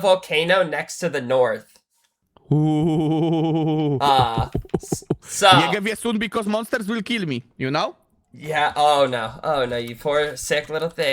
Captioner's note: laughter